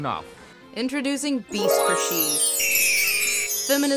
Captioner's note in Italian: voce fuori campo